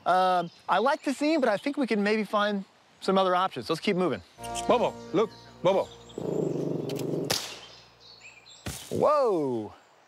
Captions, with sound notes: I'd like to see, but I think we can maybe find some other options. So let's keep moving. Bobo, look. Bobo. [growling] [gun clicks] Whoa!